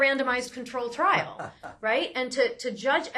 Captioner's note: laughs